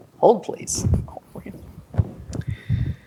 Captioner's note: quietly